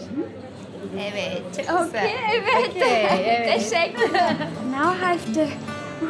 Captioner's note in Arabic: بالتركية